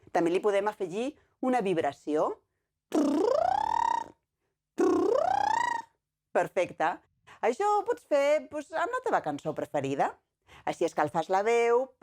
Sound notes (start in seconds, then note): 2.9 lip vibration sound